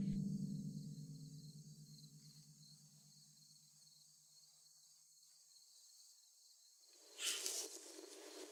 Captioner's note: crickets chirping